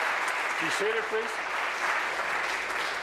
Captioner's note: applause